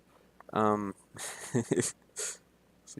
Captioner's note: giggles